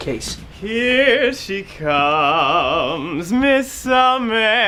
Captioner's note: theatrical voice